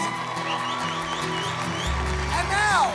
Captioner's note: cheering and clapping